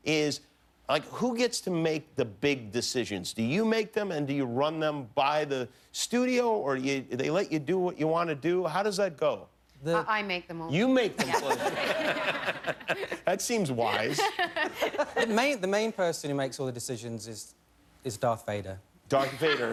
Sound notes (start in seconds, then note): 9.2 laughter